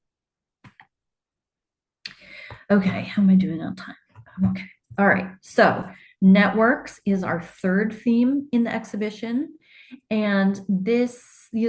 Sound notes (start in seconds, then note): 0.6 clicking